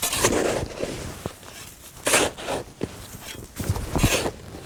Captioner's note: shovel scraping snow